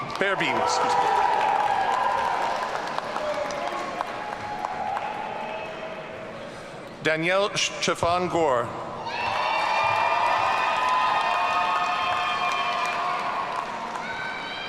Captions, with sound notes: (audience cheering) Danielle Cheffon Gore. (audience cheering)